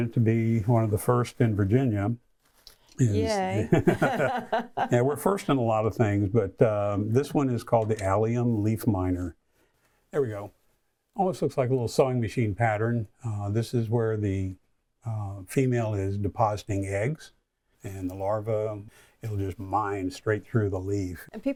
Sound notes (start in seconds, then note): 3.2 laughs